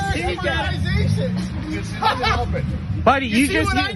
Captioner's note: laugh